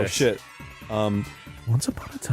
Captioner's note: puts on husky, low voice and prepares to tell a story